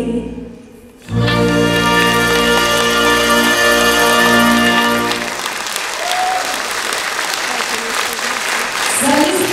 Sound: applause

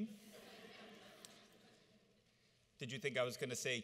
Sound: audience laughs

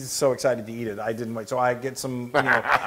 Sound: laugh

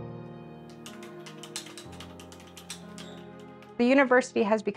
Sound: keyboard clicks

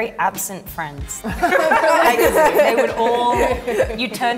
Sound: all laughing

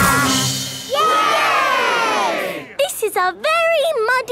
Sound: all cheering

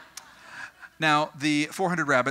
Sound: audience: Guilty giggling

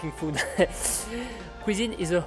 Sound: laughter

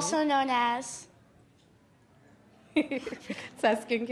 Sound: laughs

